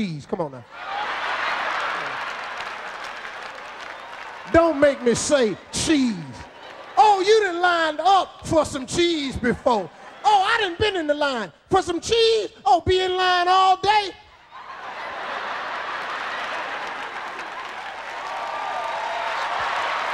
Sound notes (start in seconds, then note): 0.7 audience laughing; 14.3 audience laughing